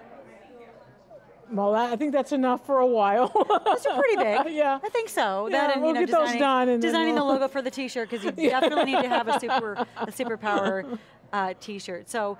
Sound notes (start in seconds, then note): 3.2 laughs